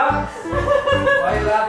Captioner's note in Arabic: يضحك